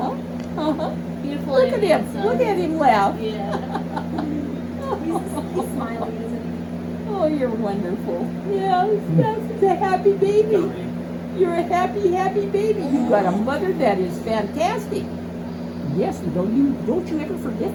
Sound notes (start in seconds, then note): 3.5 warm chuckle